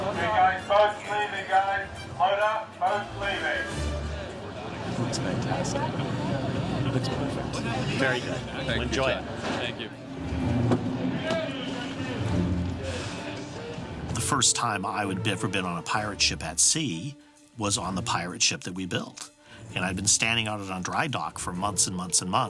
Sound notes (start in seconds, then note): 10.5 indistinct chatter